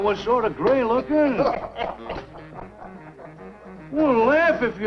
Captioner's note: all laughing